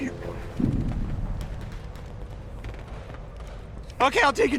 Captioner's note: gunshots